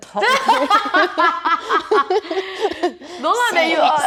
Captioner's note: laughing